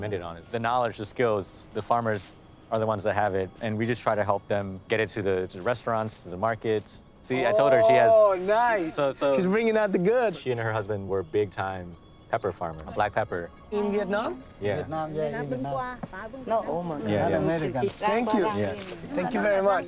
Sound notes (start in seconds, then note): 15.8 speaks Vietnamese